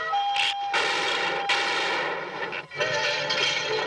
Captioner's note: gunshots